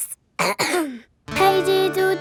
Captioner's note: clears throat